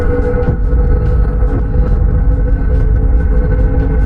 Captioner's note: heart beating